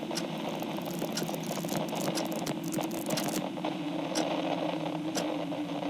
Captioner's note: page flipping fx